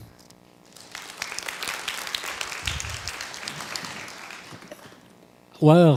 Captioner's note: crowd applause